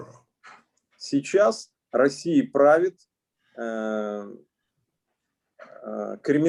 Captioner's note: speaking Russian language